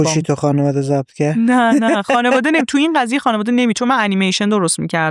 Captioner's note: laughs